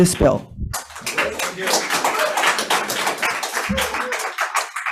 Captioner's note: audience applauds